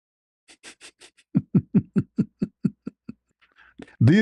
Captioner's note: ketawa